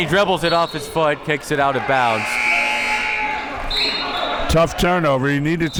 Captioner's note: buzzer sounding